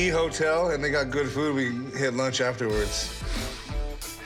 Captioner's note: chuckles